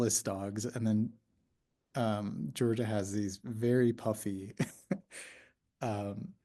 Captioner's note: laughs